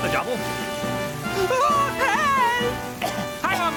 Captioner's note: coughing